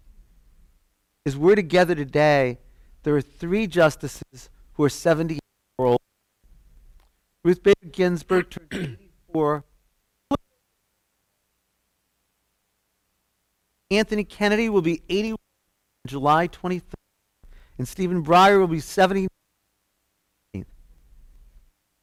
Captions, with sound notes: As we're together today, there are three justices who are -- [ Audio Cuts Out ]